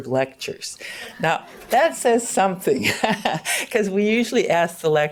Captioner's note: laughs